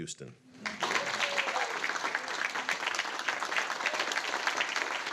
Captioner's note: audience applauding